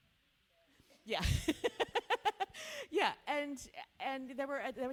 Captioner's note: laughs